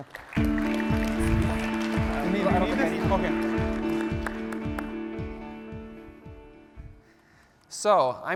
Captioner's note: applause